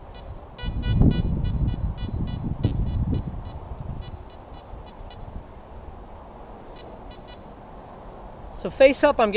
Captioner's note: detector beeps